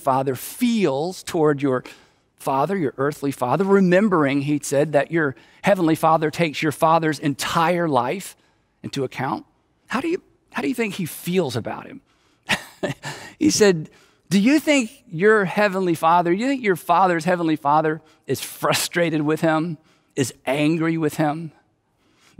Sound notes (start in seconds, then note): 12.5 chuckles